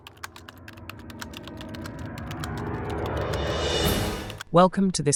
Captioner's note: typing